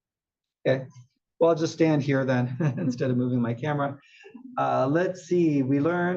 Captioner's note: laugh